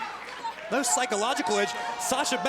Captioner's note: crowd chatter